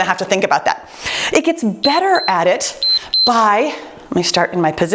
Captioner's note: timer beeps